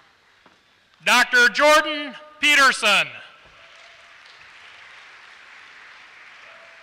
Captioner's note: applause